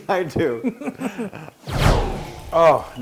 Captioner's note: laugh